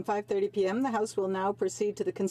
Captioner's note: speaking French